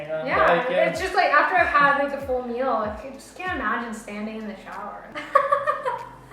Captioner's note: laugh